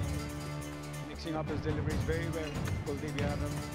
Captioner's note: TV playing